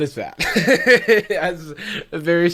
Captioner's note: laughs